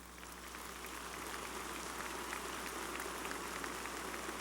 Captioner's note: applause